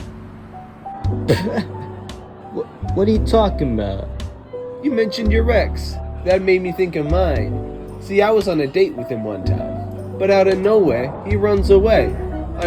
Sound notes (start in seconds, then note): 1.2 laughs